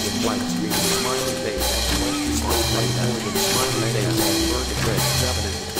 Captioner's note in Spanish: Voz acelerada